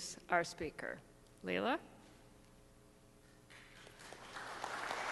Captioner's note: audience applauds